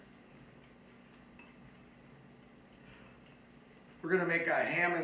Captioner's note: spoon scraping on bowl